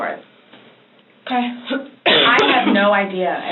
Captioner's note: coughs